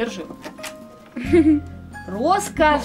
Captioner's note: laughs